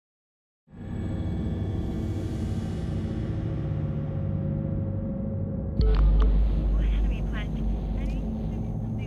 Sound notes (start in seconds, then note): 6.2 on phone